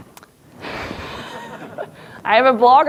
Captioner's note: laughs; audience laughs